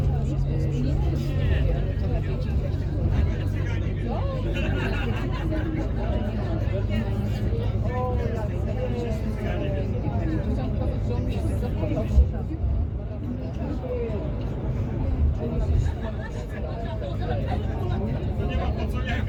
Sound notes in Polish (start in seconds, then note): 4.3 śmiech